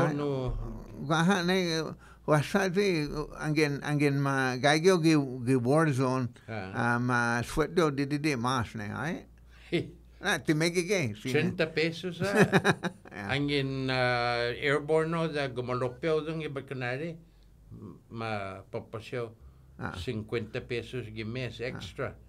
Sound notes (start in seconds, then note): 8.5 chuckles; 12.2 laughing